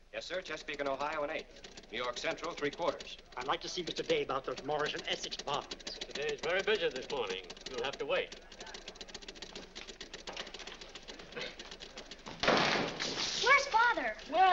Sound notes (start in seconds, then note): 8.6 machines clicking; 12.4 door slams